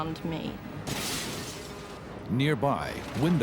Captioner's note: glass shatters